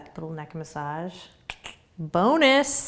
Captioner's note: clicking tongue